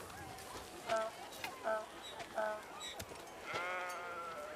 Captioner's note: donkeys braying